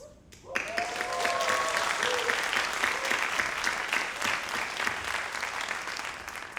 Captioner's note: graduates applauding